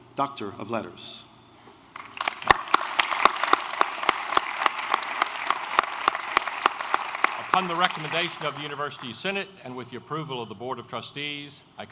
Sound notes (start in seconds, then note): 1.9 applause